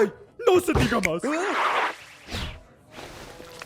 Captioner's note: yelps